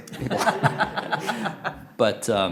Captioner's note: laughter